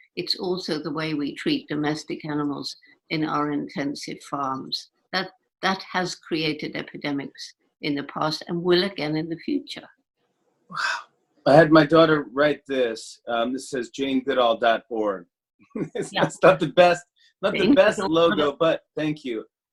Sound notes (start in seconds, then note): 17.4 laughing